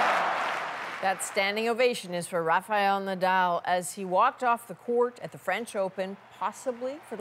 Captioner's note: cheers and Applause